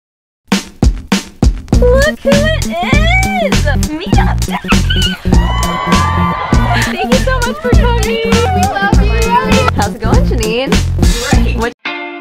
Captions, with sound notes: look who it is! it's meetup day! (cheering) thank you so much for coming we love you! how's it going jeanine? great!